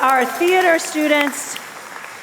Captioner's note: applause and cheers